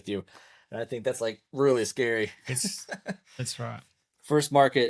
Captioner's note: laughs